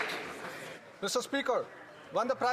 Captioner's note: some Applause